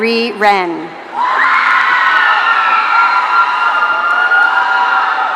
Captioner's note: audience cheering